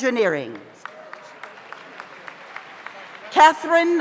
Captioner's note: audience applauds